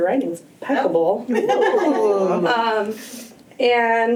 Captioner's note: laughter